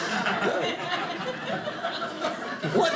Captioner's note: audience laughing